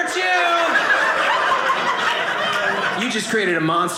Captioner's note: audience laughing